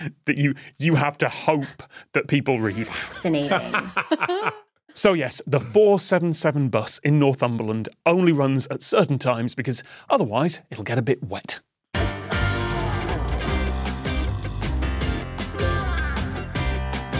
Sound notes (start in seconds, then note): 3.4 laugh